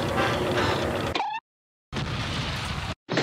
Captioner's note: sound effects; cartoon sound effect; rumbling sound; explosion, followed by dolphin sound